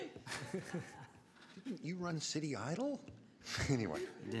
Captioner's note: laughter